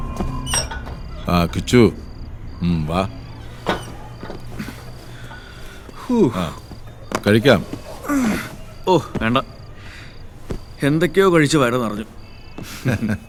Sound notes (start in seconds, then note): 5.4 Kichu sighs